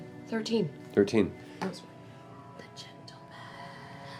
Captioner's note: whispers